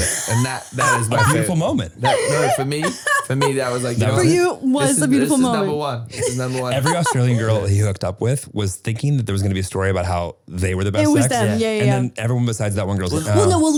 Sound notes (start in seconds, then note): 2.0 laughing